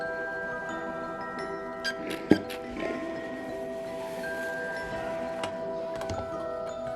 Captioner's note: undignified iron squeak, steam puffs